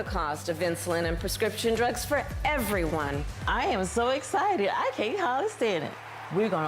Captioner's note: applause